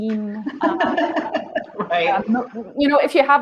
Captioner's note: laughs